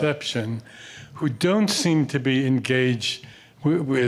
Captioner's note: coughs